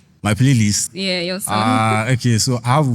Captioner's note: laughs